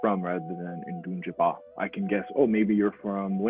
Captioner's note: speaks foreign language